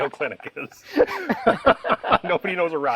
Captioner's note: both laughing